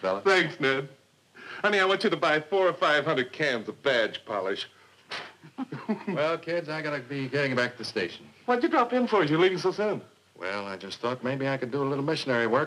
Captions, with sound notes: - Thanks, Ned. Honey, I want you to buy four or 500 cans of badge polish. (blowing) - Well, kids, I gotta be getting back to the station. - What'd you drop in for, you're leaving so soon? - Well, I just thought I could do a little missionary work